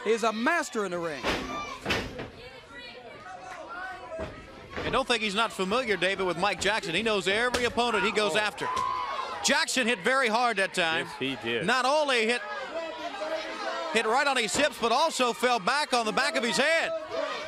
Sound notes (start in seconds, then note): 10.8 crowd chatter